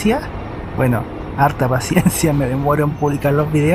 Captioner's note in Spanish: risas